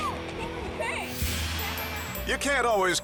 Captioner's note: transition whooshes